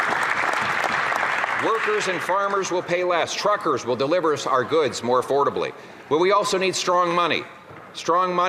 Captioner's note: some Applause